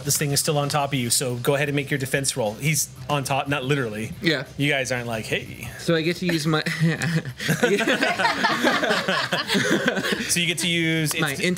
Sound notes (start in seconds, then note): 6.4 laughs